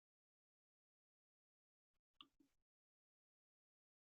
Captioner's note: silence